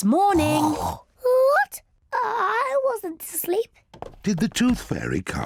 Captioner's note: snorts; stammers